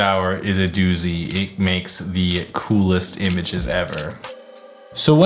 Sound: camera clicks

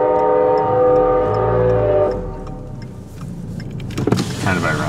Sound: train horn

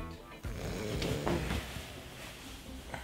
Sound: snorts

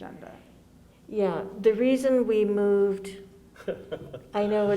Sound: laughs

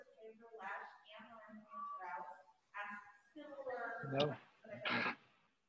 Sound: crackling

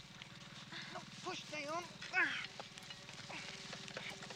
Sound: grunts

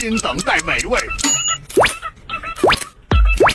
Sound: ding

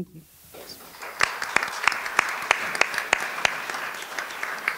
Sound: applause

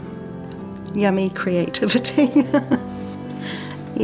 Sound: chuckles

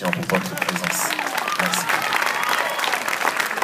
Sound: applause

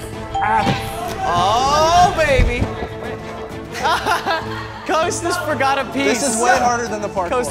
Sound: laughs

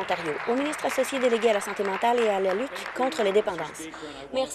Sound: applause

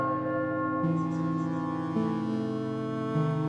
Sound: loud Church Bells Chime

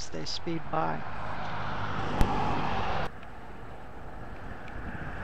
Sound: engine sound

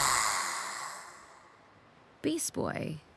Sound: sighs

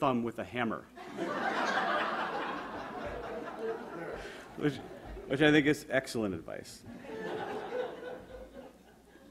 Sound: audience laughter

